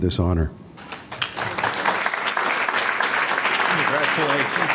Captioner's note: audience clapping